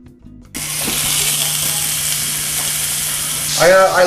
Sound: sizzling

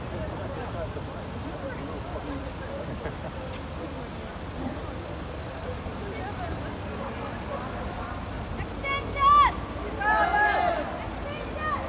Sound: crowd and traffic sounds

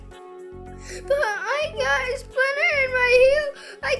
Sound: sobbing

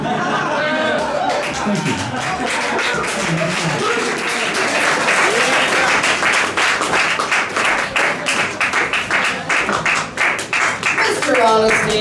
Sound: laughter; applause

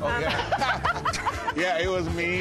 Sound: laughter

